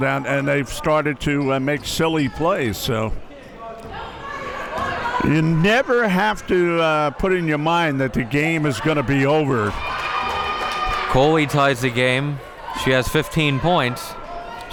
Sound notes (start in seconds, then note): 8.7 audience cheering